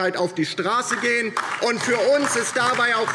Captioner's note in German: Beifall DIE LINKE